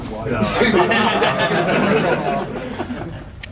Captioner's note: all laugh